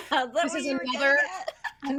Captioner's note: Hope laughs